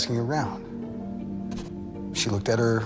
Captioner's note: brief, abstract pencil scratches